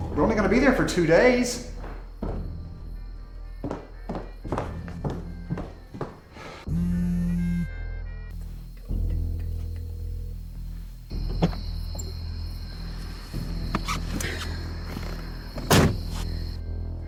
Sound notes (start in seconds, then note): 6.7 cellphone vibrating; 9.8 dramatic music; 12.1 insects chirping; 14.3 dramatic music